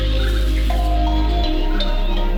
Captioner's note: birds chirping; upbeat music